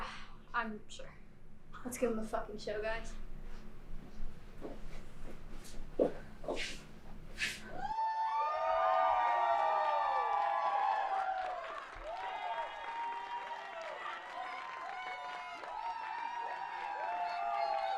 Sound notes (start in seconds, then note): 2.6 crowd cheers